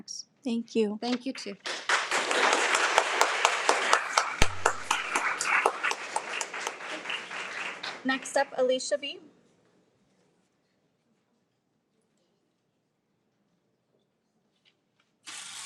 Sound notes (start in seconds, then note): 1.6 audience applauds